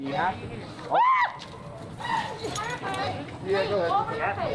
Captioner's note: trainee screaming